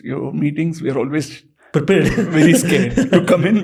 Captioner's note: chuckles